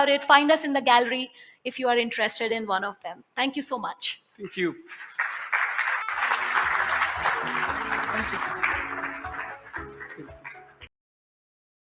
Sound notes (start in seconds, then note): 4.9 applause